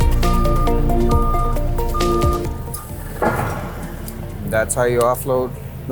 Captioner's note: lift alarm beeps; upbeat music